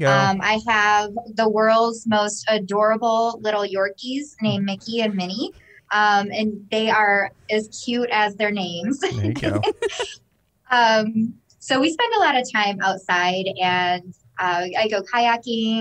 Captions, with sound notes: -I have the world's most adorable little Yorkies named Mickey and Mini, and they are as cute as their names. [chuckles] -There you go. -We spend a lot of time outside and I go kayaking,